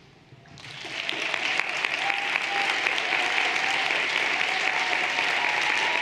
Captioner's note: everyone applauding and cheering